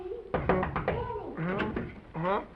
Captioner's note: knocking